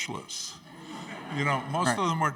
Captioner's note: audience laughing